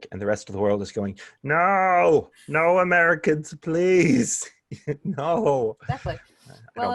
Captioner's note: laughter